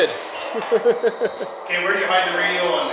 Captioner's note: laughs